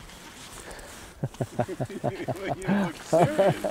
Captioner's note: laughter